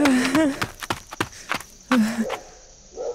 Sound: panting slows down

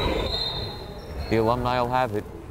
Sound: whistle blows

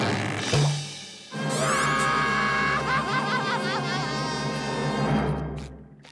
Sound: crying

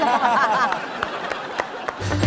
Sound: laughs and claps

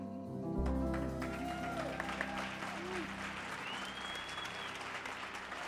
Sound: audience cheers and applauds

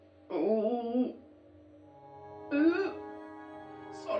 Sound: groaning

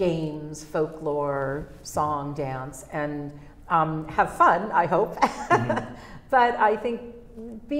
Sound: laughs

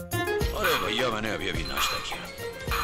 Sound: sound from the Movie in TV

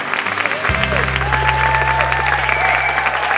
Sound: clapping

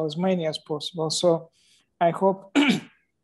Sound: clears throat

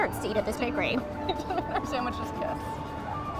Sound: laughs

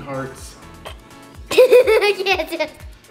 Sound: laughing

